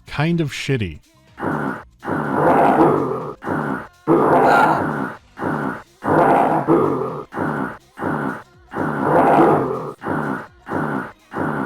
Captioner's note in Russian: долгая череда одинаковых стонов